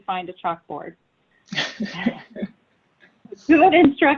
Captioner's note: laughing